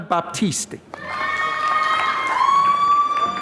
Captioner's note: applause